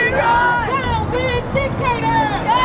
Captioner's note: crowd chanting